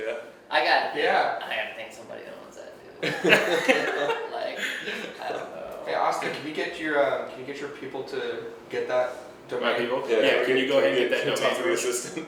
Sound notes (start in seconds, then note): 3.0 laughing